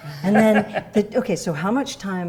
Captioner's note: laughing